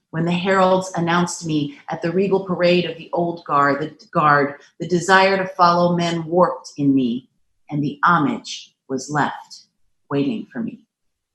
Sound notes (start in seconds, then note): none